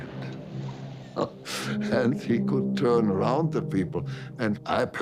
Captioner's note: laughs